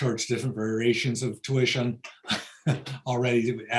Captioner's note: laughs